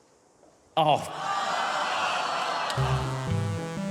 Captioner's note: audience exclaims; ascending keyboard notes play